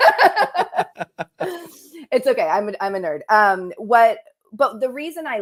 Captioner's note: laughter